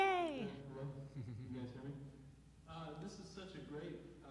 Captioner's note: chuckling